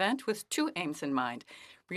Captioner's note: speaking French